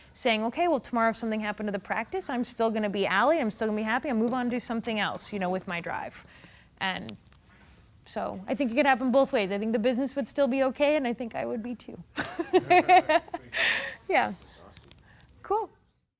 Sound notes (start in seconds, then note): 12.2 laughing